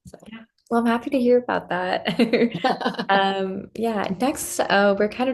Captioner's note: laughs